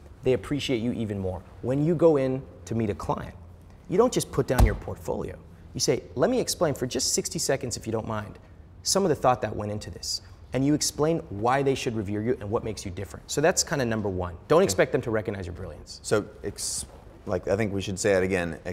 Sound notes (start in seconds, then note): 4.5 smacking